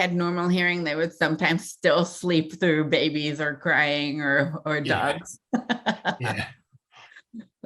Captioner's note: chuckle